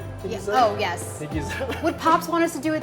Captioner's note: chuckles